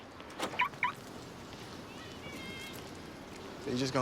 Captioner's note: car alarm chirps